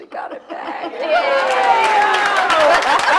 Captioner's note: laughing and applauding; cheering and applauding